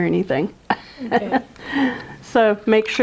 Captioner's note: laughs